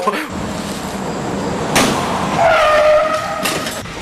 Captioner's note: ambient noises, dummy hits the car and hitting the break; ambient noises and stuff hitting the floor